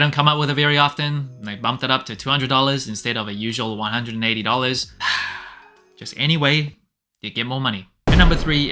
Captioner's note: sigh